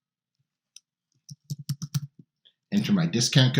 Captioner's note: mouse clicking